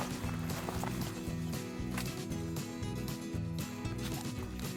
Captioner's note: feet crunching